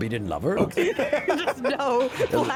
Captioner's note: laughing